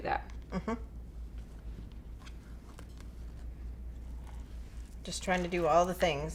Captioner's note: hums in agreement